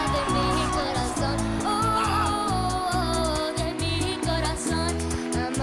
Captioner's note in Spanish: exclamaciones